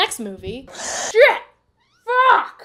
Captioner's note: goomba breathes